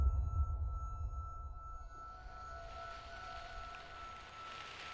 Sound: ears ringing

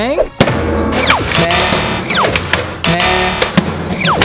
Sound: sound of metals

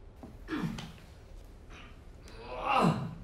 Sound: grunting noises

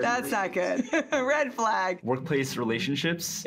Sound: chuckling

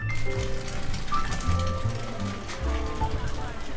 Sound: egg sizzling

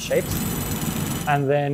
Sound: legs whirring

